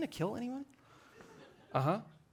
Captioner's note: audience laughing